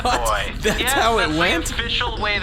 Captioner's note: moans